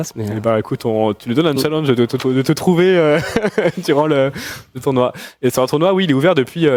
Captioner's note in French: rires